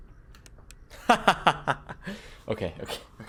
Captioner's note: laughs